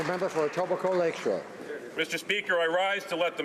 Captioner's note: some Applause